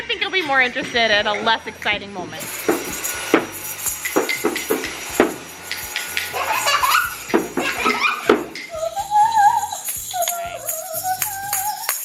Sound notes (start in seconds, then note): 2.8 drum beats; 7.4 laughs